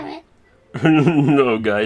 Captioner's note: laughing